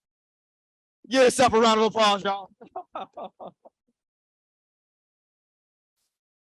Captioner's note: chuckles